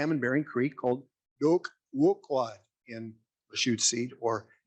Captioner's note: speaking in Lushootseed